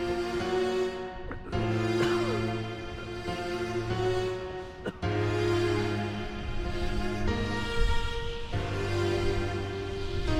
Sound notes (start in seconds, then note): 0.1 Asher coughing; 6.0 wind whooshing; 6.7 somber music